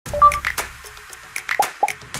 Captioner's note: upbeat music; beep